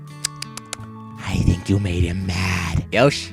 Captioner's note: whispering